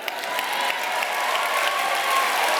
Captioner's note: applause